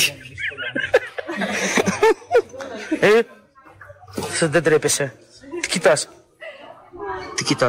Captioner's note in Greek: γέλια